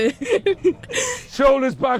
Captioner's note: laughs